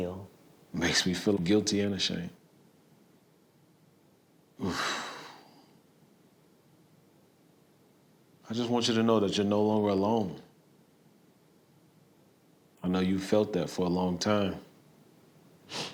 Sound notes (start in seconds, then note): 4.6 exhales deeply